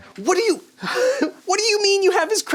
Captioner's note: laughs